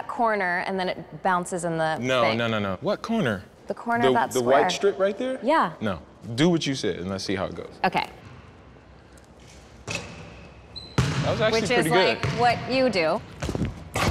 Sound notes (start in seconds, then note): 10.8 ball bounces